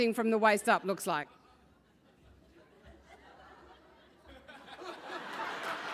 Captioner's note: laugh; applause